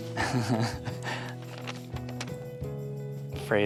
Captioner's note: laughing